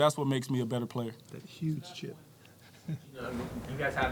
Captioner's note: Peter Carroll laughing